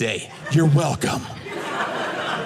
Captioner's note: audience laughing